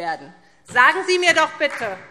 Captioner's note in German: Beifall SPD